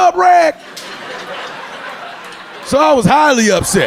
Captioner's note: audience laughing